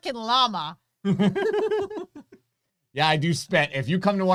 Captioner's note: both laughing